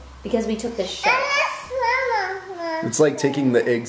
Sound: mumbling

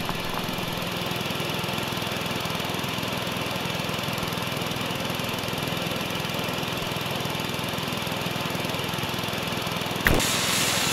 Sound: portal Generator Sound

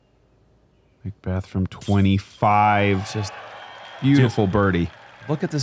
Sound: crowd cheering

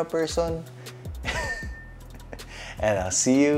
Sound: giggles

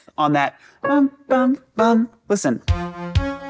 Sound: humming; upbeat airy music

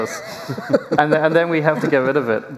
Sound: laughter

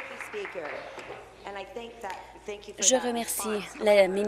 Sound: applause

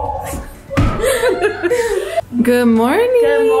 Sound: laughs

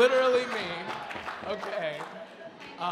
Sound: audience laughing

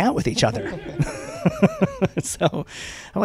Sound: laughter

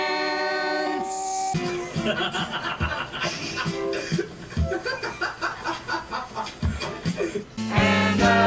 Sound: laughter

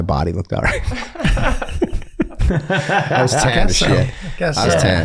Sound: all laughing

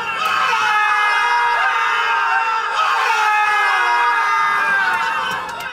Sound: screaming in agony

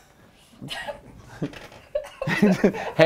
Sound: laughs

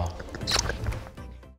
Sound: smooches

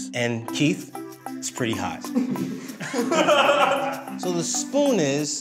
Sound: group laughs

